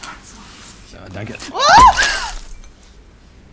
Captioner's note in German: Glasklirren